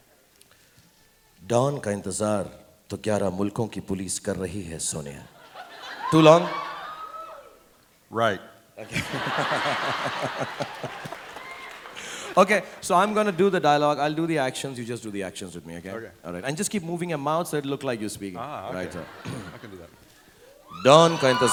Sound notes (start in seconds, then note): 1.1 speaks in Hindi; 8.8 laughs